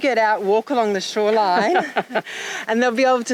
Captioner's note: laughing